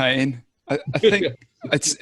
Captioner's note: laughs